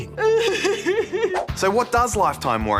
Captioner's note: sobs